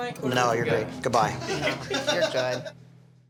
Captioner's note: laughter